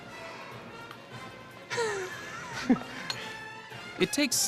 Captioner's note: laughing